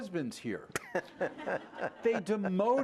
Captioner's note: laughter